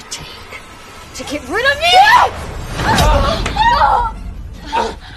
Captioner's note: screams